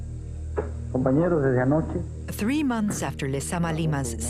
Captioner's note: speaking Spanish